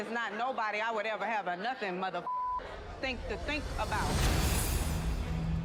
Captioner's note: beep; curious music